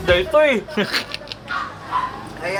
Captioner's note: chuckles